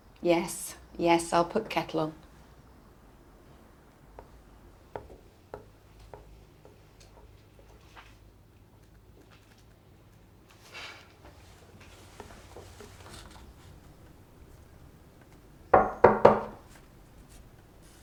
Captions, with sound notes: - Yes, yes. I'll put Kettle on. (muted footsteps clacking) (deep breath) (door knocking)